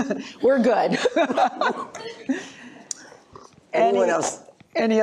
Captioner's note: laughter